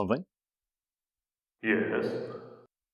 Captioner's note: echoing